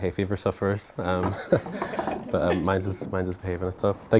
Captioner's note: laughing